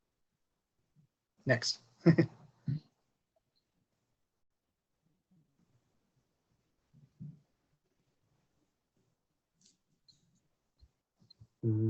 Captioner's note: silence